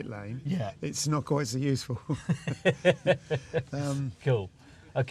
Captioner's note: both laugh